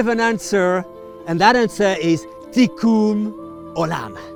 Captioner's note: speaking in foreign language